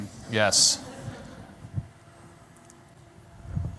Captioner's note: laughter